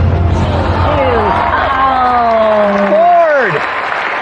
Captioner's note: cheering and applause